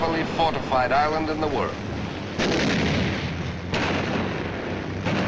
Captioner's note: explosions